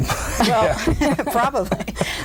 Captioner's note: all laugh